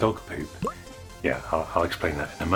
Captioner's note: pop!